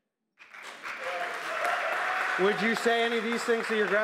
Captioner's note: applause